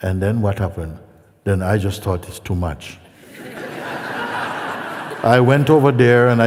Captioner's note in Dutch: gelach